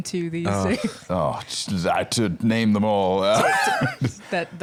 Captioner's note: groans